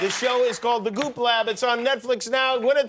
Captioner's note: applause